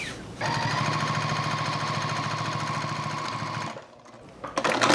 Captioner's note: sewing machine whirring